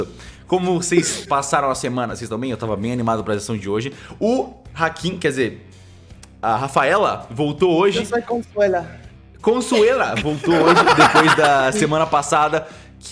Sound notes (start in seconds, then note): 7.8 in Spanish; 10.1 laughing